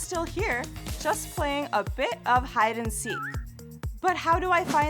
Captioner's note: whistle noise